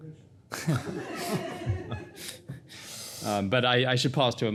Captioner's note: everybody laughing